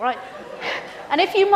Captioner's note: students laugh